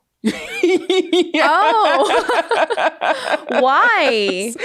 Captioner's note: laughing; laughs